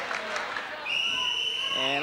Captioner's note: whiststlele blolowiw